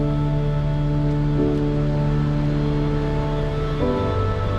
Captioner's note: water rushing